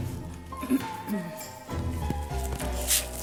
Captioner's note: clears throat softly